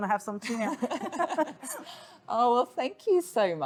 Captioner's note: both Laughing